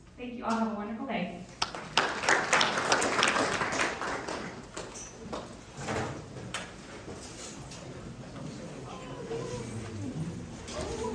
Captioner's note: applause